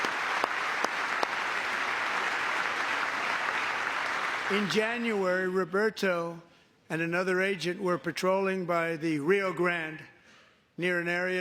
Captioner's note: applause